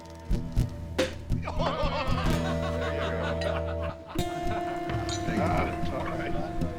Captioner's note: cork pops; men laugh